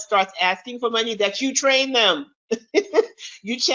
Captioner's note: chuckles